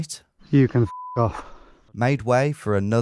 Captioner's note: beep